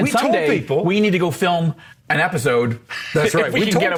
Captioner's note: laughs